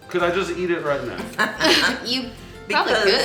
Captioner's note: laughing